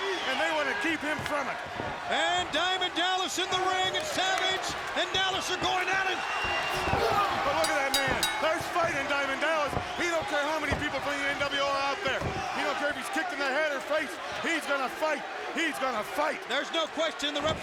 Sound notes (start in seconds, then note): 7.6 bell ringing